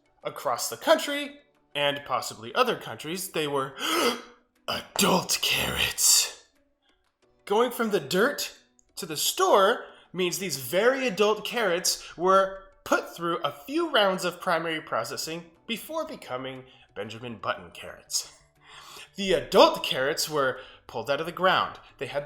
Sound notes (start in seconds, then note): 3.8 gasps